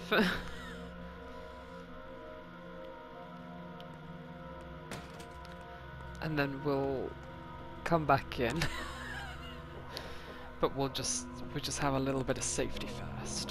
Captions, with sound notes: [laughs] and then we'll come back in [laughs] but we'll just we'll just have a little bit of Safety First